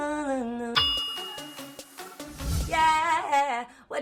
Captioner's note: ding